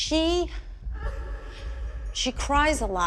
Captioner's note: muffled sobbing